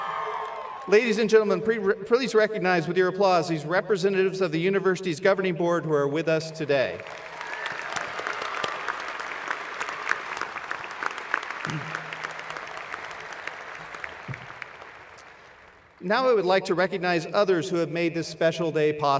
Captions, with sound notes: Brett Netto, our Graduate Student Representative, and Mr. Seyi Olusina, our Undergraduate Student Representative. [Cheers and Applause] Ladies and gentlemen, please recognize with your applause these representatives of the university's governing board who are with us today. [Applause]